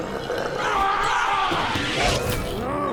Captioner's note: bucky screaming; zombie walte yelling